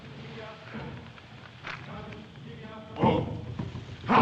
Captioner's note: none